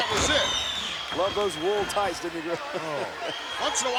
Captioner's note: laughs